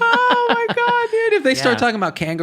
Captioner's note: laughing